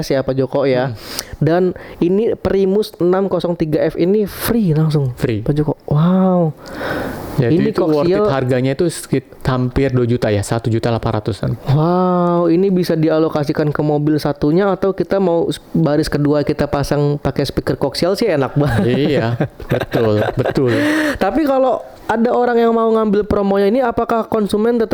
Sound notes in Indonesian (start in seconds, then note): 18.6 tertawa